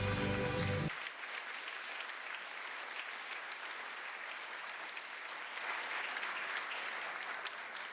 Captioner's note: music fading out; applause